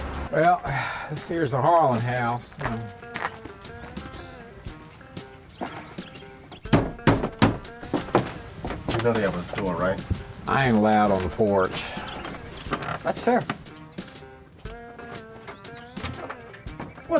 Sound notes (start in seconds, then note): 2.3 footsteps; 6.5 banging on porch; 14.2 footsteps and door opening